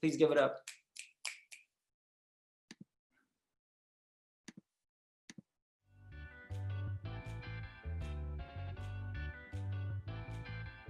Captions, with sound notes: please give it up. (snaps thumbs)